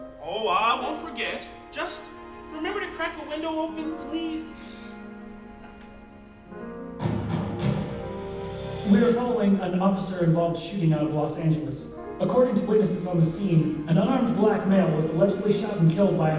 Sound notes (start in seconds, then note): 7.0 newscast plays from t.v